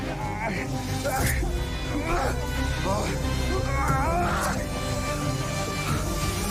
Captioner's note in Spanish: Jadeos y exclamaciones